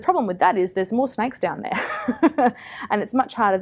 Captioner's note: laughs